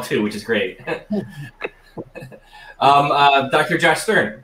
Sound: laughs

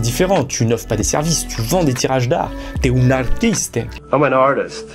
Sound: with italian accent

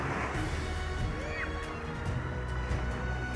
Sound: water splashes; upbeat music plays

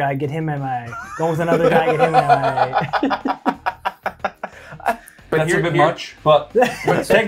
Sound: laugh

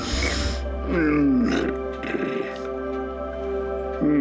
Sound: grunting

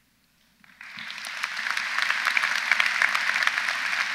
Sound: audience applauds

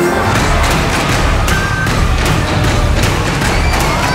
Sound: tracks clacking

